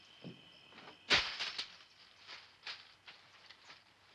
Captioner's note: metal clanking sound; coins jingle under feet